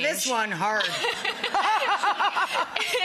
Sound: laughs

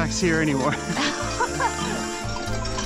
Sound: laughing

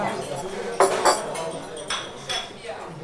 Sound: babble of voices

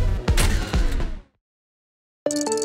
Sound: music stops

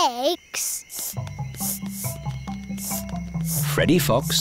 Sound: sniffing

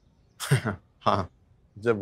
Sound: giggling

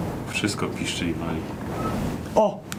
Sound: squek

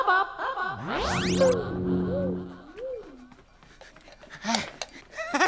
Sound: space sounds

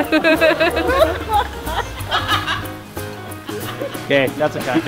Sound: people laughing

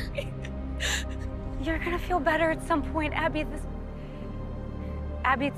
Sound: sobbing

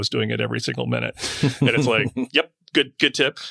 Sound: laughs

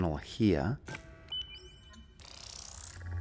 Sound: button being pressed

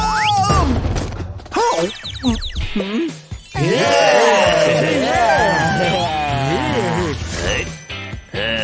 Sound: making happy sounds; moaning

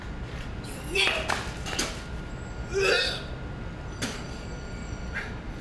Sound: Satoru dry-heaves

